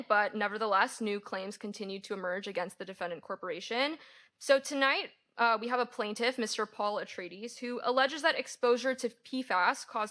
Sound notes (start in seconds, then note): none